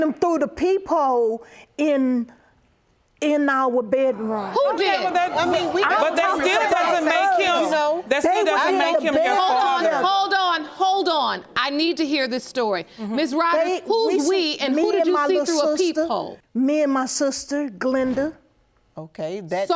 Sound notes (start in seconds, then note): 4.4 audience exclaiming; 6.5 all clamoring